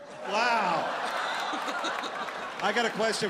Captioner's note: audience laughs